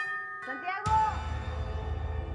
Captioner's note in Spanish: Timbre de la puerta